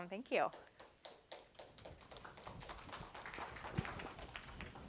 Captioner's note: applause